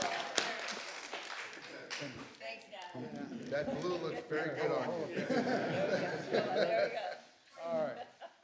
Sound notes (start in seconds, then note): 3.5 laughter